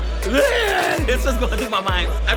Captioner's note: yells